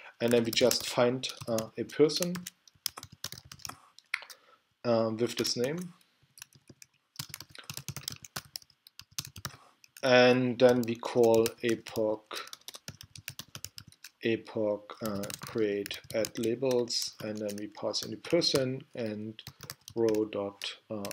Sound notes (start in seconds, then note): 2.2 typing; 12.4 typing